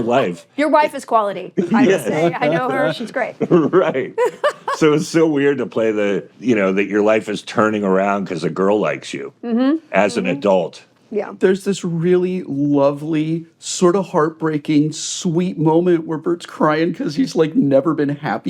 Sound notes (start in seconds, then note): 1.6 laughs; 3.4 chuckles